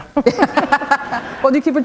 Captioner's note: chuckle